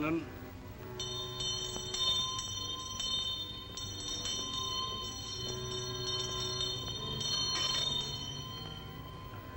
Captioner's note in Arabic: موسيقى مشؤومة; يرن الجرس; موسيقى مشؤومة